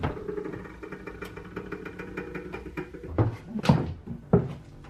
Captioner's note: door creaks; feet clank